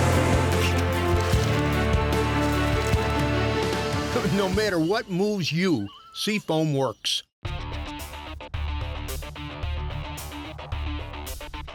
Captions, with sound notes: - [Voiceover] No matter what moves you, Sea Foam works. (upbeat electronic music)